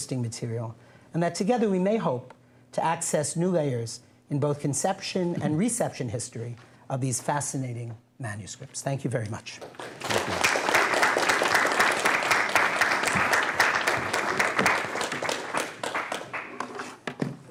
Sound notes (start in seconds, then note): 9.6 applause